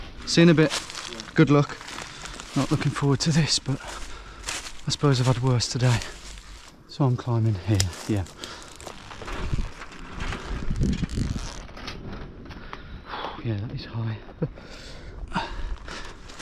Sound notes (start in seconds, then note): 9.6 fence rattling; 15.3 chuckles